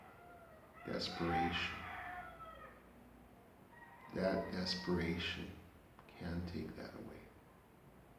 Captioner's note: roosters crowing